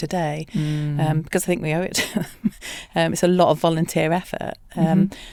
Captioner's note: laughs